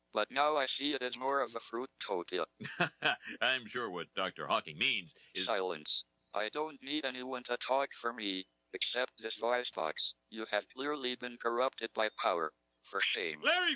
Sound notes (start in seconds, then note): 2.6 laughs; 5.8 electronic Voice